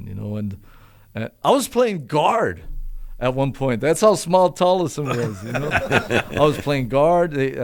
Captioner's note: laughter